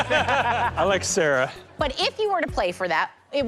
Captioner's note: laughs